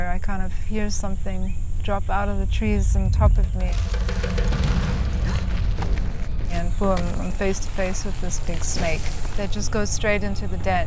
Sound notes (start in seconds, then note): 5.1 gasps